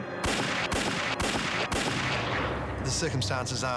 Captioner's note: gunfire